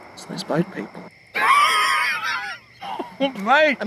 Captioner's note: man laughs